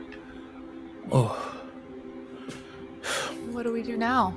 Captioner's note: groans